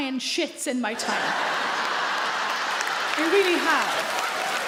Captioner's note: audience laugh loudly; audience clap